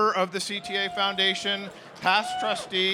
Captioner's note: cheering